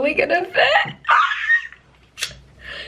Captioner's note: excited squeal